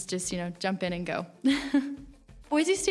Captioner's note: laughs